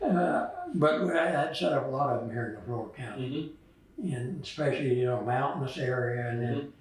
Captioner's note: laughter